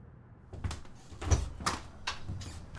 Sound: door opens

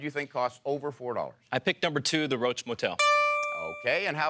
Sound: dinging bell

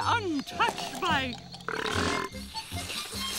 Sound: belching

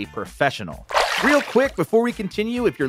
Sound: water splashing

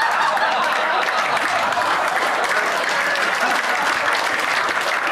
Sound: audience laughing; audience applauding

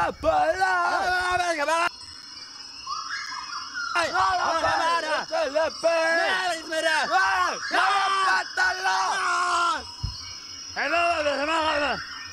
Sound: strange Yelling

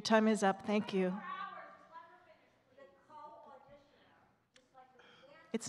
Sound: faintly speaking

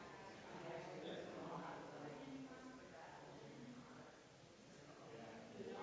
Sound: people chattering distantly continues

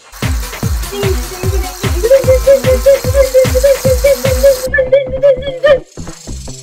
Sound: incoherent dinging

